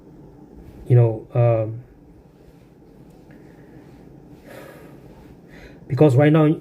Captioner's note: silence and sigh